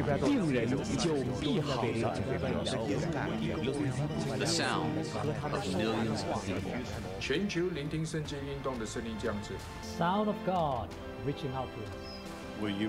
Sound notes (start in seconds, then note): 7.1 in Mandarin